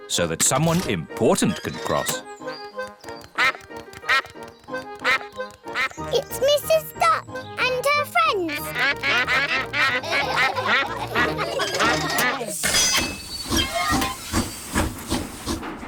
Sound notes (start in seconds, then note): 3.5 quacks; 7.6 all quack; 8.8 laughter; 13.7 train chugs